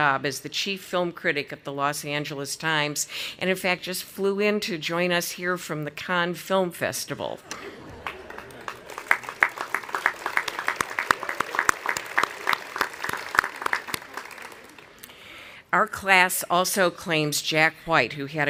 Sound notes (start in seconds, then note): 7.4 audience applauding and laughing